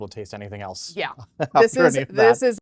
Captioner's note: laughs